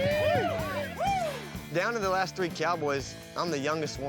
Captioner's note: cheering